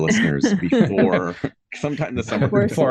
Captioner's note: all chucking